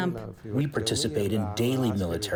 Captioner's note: through translator